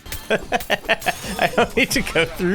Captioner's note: laughs